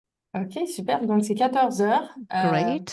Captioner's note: speaking french